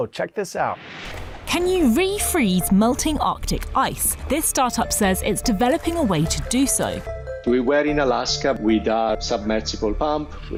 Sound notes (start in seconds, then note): 2.3 voice-over